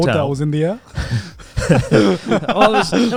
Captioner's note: laughs